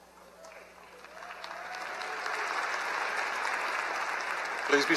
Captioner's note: applause